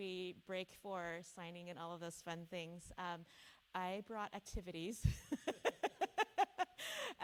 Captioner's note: laughs